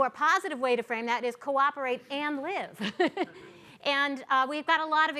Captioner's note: chuckles